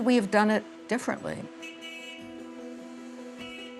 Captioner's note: horn blowing